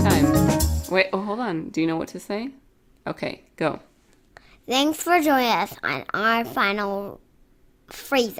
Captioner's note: child's voice